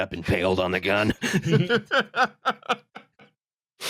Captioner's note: laughter